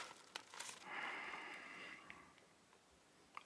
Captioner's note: Max sighing